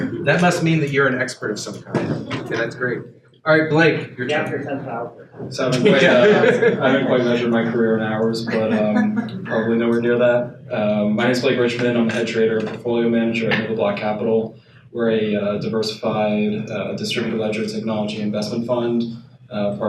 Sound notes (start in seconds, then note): 0.0 audience laughs; 5.6 panel laughs